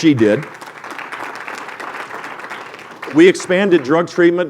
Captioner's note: applause